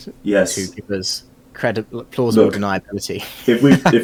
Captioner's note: laughing